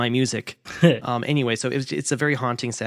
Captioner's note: laughs